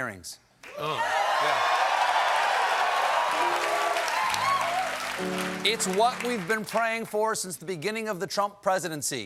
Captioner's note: cheers and applause